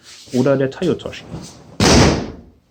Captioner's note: body drop